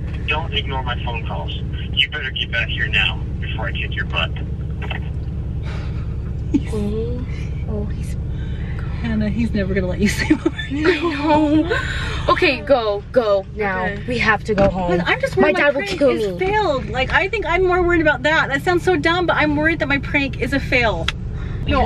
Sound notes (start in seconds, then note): 6.4 laughter; 10.1 laughs